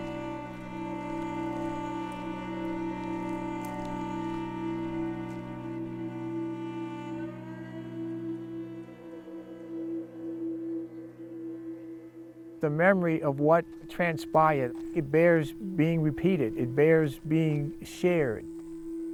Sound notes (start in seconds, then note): 0.0 footsteps crunching; 5.7 solemn music continues